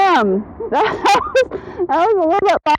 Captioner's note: laughing